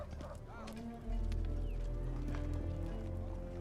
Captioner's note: none